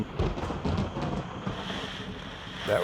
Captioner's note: rain pattering; thunder crashing